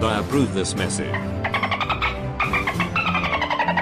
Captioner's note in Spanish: sonidos de -delfines